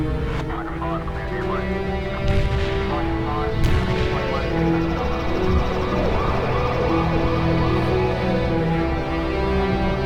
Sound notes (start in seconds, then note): 0.3 radio chatter; 4.2 sirens